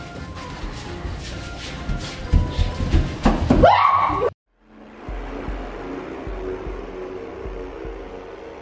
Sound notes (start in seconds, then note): 3.6 girl screams